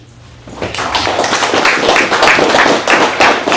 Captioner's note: applauding